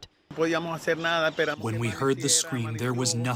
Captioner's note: through translator